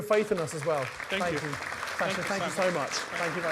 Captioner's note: audience applauds